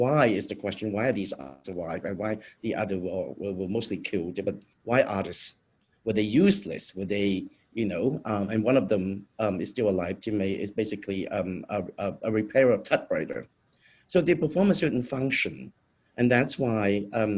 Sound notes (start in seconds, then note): 10.9 speaking in foreign language